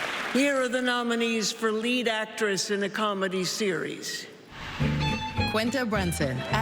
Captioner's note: applause